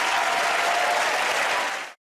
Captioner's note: cheers and applause